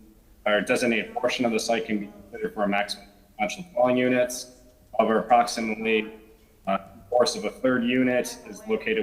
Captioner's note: ~distortion~